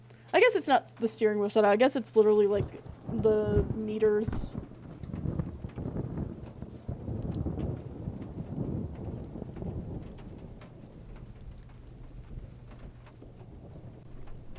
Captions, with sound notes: I guess it's not the steering wheel shadow. I guess it's literally, like, the meters. [Thunder Rumbling] [Doggy Nails Clicking]